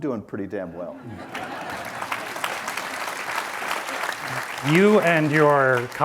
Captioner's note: audience laughs and applauds